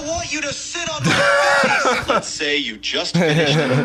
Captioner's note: laughs